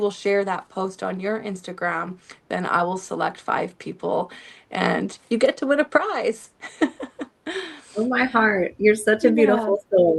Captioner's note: laughter